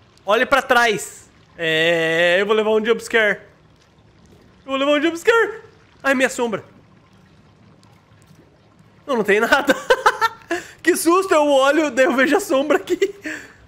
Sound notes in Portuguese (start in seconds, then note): 9.5 risos